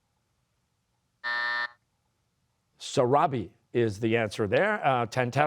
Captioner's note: buzzer